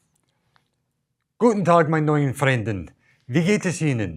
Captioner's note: speaking german